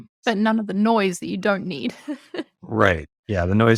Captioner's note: laughs